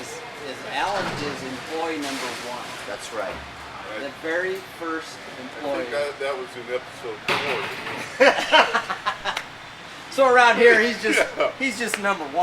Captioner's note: laughing